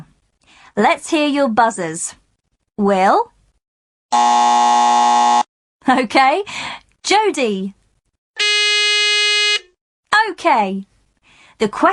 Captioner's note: sound of buzzer; sound of buzzer